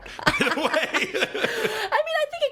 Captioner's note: both laughing